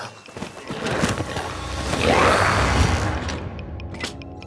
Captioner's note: glowzies growling; device clicking